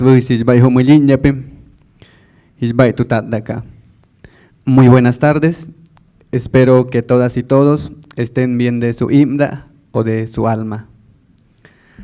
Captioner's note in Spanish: saluda en lengua indígena